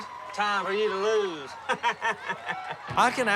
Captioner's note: laughs